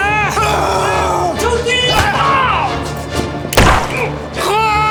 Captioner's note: Siegmund yelling; soldier yelling German; gunshot popping; Siegmund crying